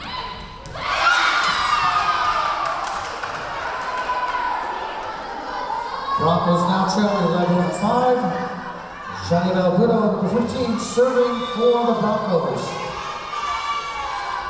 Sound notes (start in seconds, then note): 1.6 cheering; 1.8 clapping